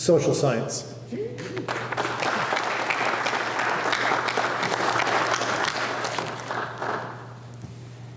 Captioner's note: applause